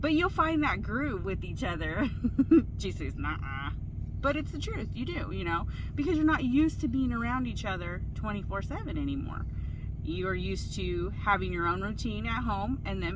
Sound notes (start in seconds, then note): 2.0 laughs loudly